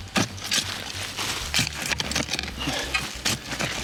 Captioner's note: shovel thunking